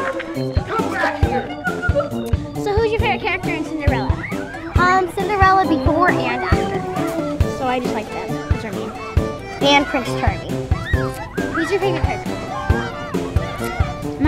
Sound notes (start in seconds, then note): 4.5 voiceover; 8.3 children talking; 11.0 circus-like music